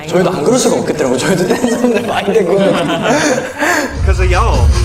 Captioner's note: snorts